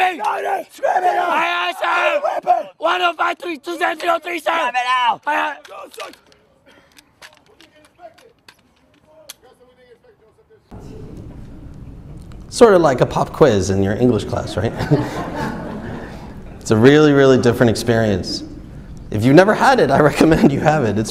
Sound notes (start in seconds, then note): 2.3 shouting; 4.7 yelling; 14.1 audience laughs